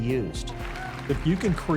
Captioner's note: crowd applause